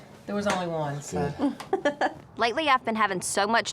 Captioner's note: laughs